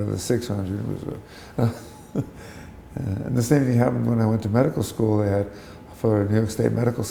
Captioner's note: chuckle